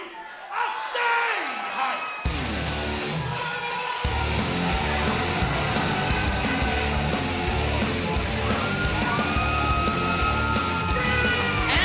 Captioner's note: crowd cheering